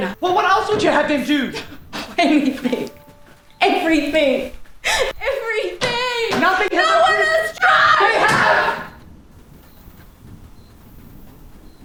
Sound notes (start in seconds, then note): 1.4 Carrie scoffs; 8.1 Victor slams counter